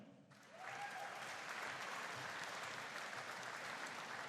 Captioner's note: audience cheering